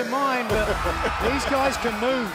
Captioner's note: laughter